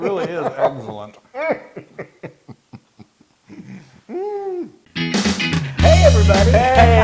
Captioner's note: laugh